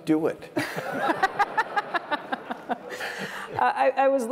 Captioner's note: laughter